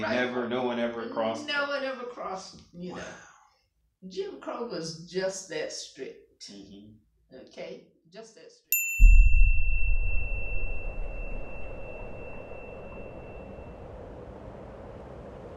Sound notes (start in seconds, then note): 9.0 wind blowing; 9.0 beep